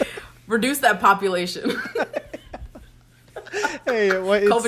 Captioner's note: both laugh